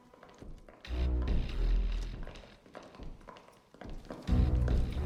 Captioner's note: footsteps